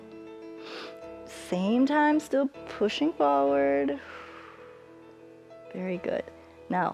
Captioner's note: exhales